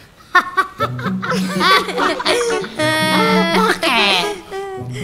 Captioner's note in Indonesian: para santri tertawa